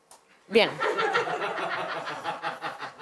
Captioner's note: laughter